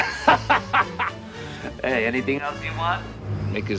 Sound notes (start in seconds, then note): 0.0 laughing